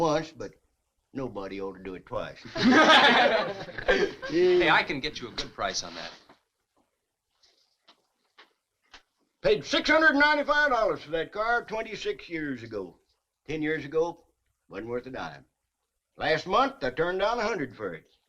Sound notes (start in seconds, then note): 2.5 all chuckling